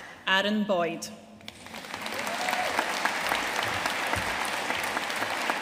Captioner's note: audience cheering and applauding